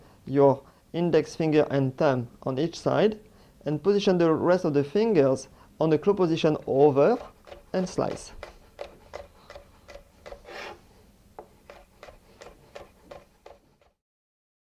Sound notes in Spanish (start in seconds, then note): 10.5 sonido cortando